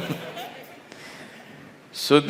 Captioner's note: laughs